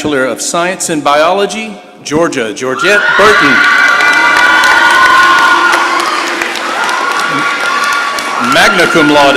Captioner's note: applause